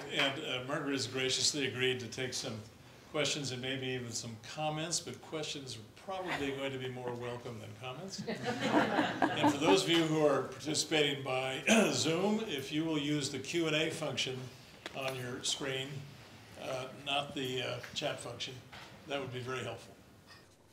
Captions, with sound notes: And Margaret has graciously agreed to take some questions and maybe even some comments, but questions are probably going to be more welcome than comments. >> [LAUGH] >> And for those of you who are participating by [COUGH] Zoom, if you will use the Q&A function on your screen, not the chat function, that would be very helpful.